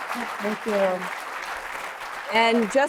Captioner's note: applause